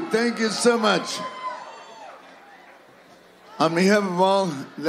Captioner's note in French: cheers